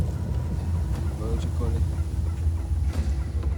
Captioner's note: speaks in Maya